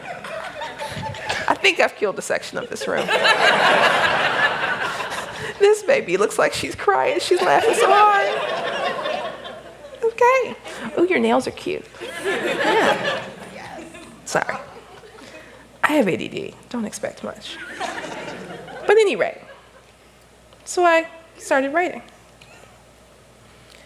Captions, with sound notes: [Laughter] I think I killed a section of this room. This baby looks like she's crying. She’s laughing so hard. Ooh, your nails are cute.[Laughter] Sorry, I have ADD, don't expect much. But at any rate, so I started writing.